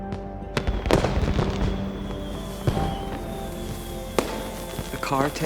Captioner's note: fireworks exploding